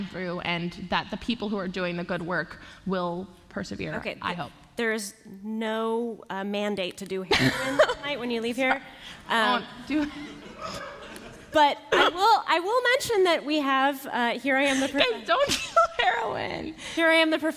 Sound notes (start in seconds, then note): 7.3 laughter; 10.0 laughter; 14.7 laughter